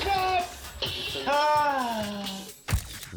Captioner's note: bike smashing; rider groaning; rider groaning; camera shutter clicking